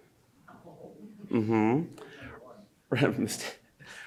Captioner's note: laughs